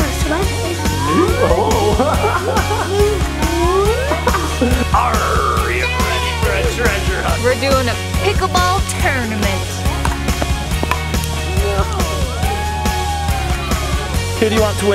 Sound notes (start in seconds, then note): 0.4 music drowns out voice; 1.0 laughs; 9.9 ball knocks against paddles; 13.2 woman cheers